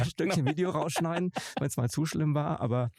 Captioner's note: lacht